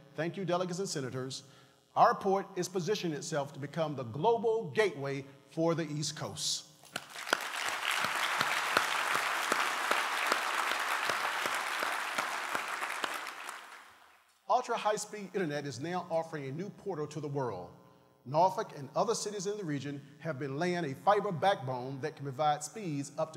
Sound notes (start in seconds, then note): 10.9 applause